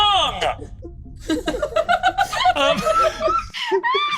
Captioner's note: laughs